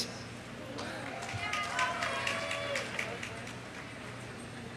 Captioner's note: audience applauding